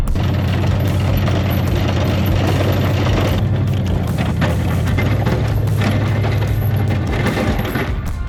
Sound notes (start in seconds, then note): 2.5 engine rumbling continues; 2.5 upbeat rock music continues